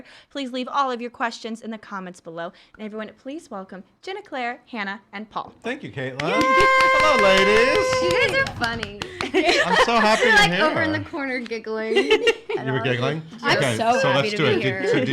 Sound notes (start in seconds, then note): 6.2 cheering and clapping; 9.5 laughing